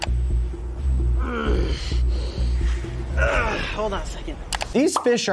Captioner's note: grunts